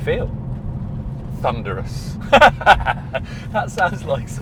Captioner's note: laughs